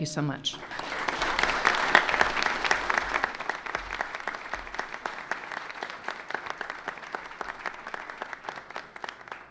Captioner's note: applause